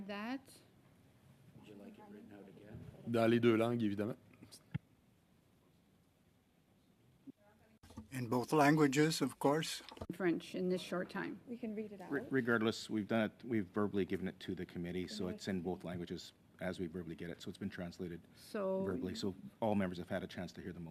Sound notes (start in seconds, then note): 7.3 speaking French